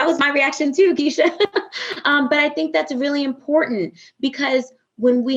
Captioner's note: laughs